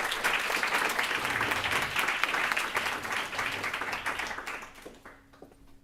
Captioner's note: applause